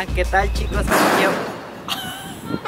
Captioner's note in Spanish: estruendo